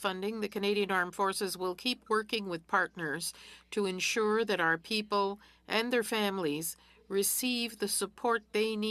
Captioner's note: speaking French